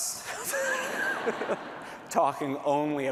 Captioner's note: laughter